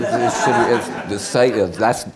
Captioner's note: many laughing